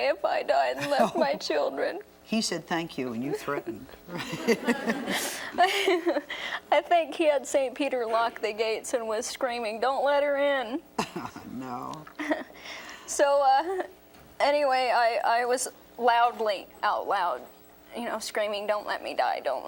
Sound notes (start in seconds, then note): 4.0 chuckles; 4.0 laughs; 4.1 audience chuckles; 12.0 chuckles